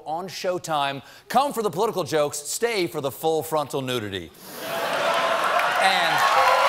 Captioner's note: cheers and applause